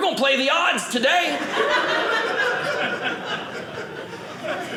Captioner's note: audience laughing